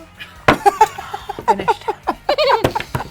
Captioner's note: laughs